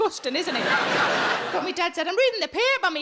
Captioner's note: audience laughing